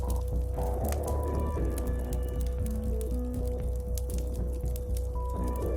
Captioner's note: fire crackles